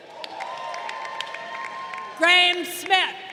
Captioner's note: crowd cheering